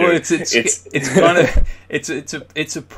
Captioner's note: laughing